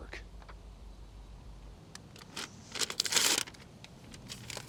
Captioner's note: birds chirping